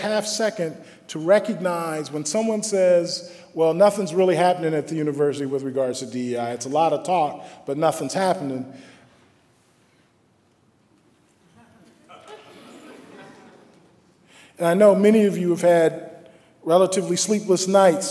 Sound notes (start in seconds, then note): 9.8 laughter